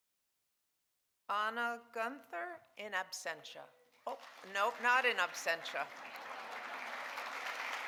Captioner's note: audience applauding